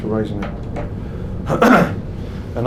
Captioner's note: clears throat